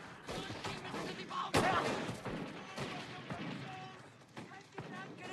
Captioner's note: german soldiers shouting